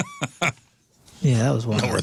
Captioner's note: laughing